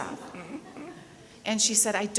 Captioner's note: people laughing